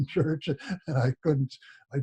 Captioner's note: laughs